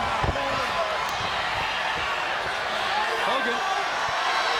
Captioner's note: crowd cheers